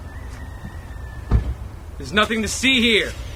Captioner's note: car door closes